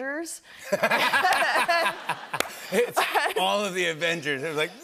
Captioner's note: laughter